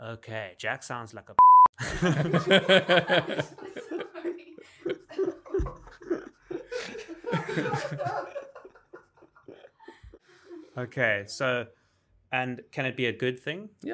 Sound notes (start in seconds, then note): 1.8 laughing